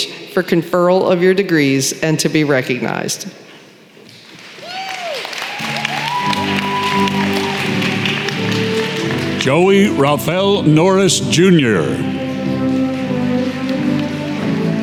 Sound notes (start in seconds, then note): 4.1 applause